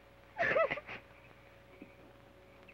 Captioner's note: sobs